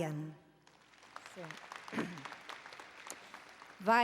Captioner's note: applause